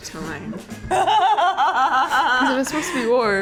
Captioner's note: laughs